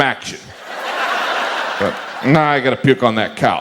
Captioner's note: audience laughs